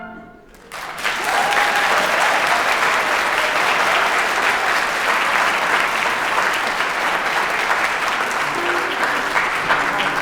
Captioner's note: applause